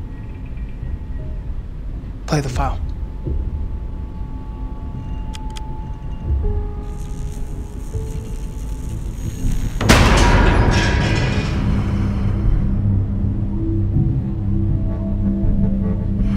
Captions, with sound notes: - Play the file. (static buzzing) (banging) (dramatic music)